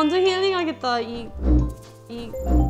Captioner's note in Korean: 드르륵